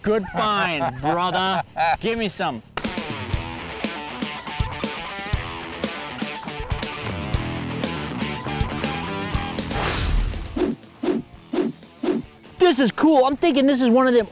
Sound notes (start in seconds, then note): 2.8 upbeat music; 8.5 beeping; 9.6 whooshing